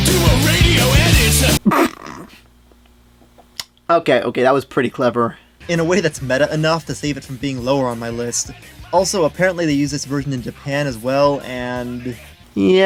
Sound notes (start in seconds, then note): 1.6 snickers